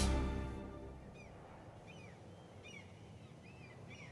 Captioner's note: birdsong